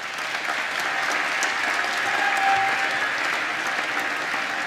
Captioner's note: applause